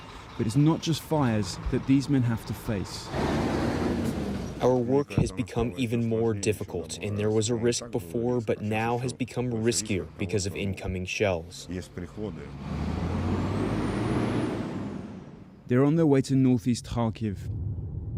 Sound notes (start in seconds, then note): 4.1 through translator